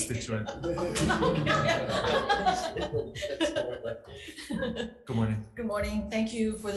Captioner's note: group laughing